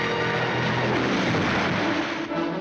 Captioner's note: big crash